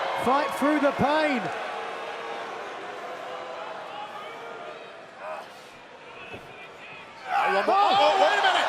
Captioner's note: crowd chatter